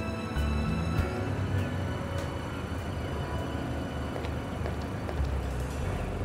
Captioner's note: engine puttering